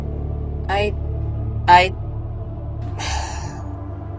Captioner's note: sighs